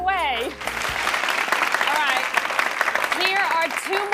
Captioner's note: clapping